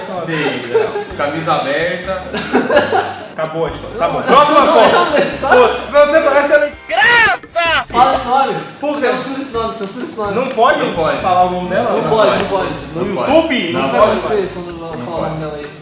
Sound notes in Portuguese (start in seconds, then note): 2.3 Risos